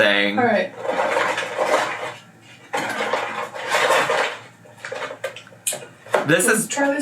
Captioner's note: cardboard scraping